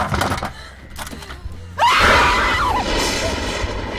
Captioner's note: Sarah screams